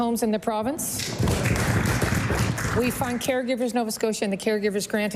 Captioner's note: applause